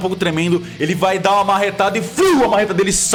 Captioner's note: whoosh